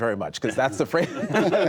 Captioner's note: laughter